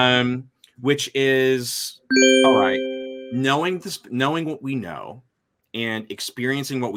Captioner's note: bell chimes